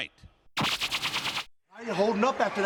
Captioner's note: graphics buzzing